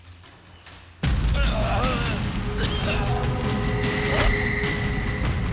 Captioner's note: groaning